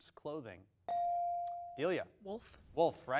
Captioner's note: bell dings